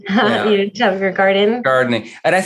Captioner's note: laughs